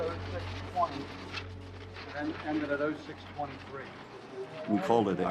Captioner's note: people chattering